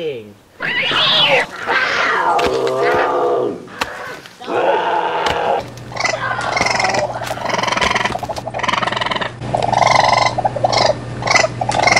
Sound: animal attack sounds

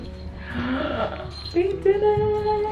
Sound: gasping

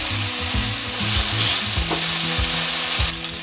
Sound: sizzle

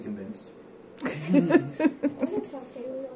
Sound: laughter

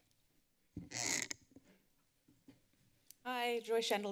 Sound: mic squeaks

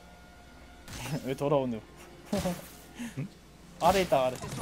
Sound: laughs

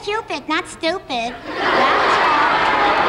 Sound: audience laughs

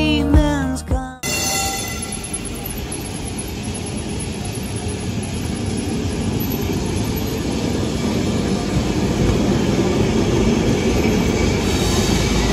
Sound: noise of streetcar and streetcar coming up the street

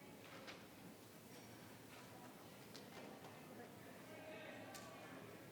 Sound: people chattering distantly

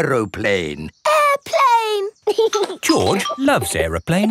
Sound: giggling

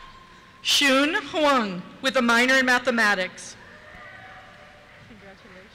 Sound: cheers

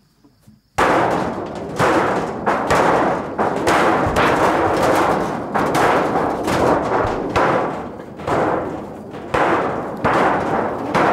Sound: loud crashes like Thunder

